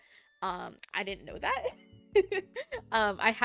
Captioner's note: giggling